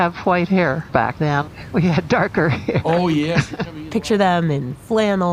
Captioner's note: laughs